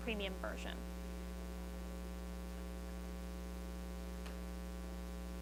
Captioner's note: student speaks faintly